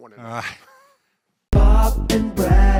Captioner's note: laughing